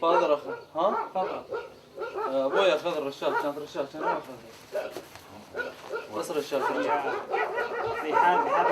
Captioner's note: Iraqi speaking to interpreter in Arabic